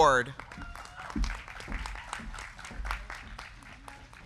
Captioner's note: crowd clapping